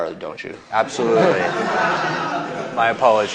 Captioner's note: laughter